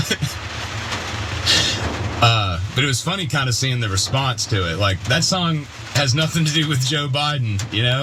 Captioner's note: laugh